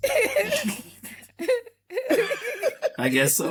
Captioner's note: laughter